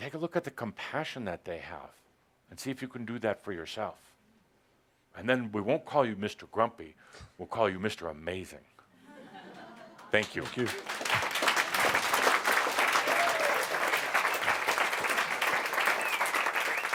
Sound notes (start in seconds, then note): 9.8 audience applause